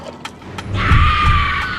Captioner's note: screaming